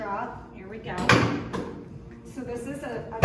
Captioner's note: table thump